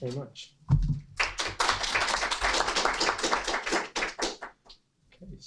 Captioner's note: students applaud